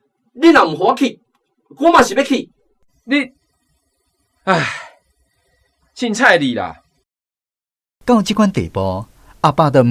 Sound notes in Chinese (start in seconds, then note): 4.5 吐氣